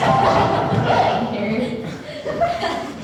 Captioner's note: ALPHAS laugh at tantrum